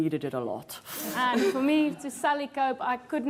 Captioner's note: laughs